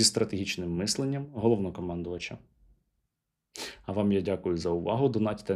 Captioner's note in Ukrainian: сопіння